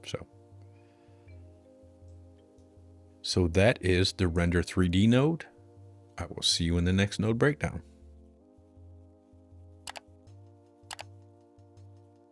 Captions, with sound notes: So that is the render 3D node. I will see you in the next node breakdown. (keyboard clicking)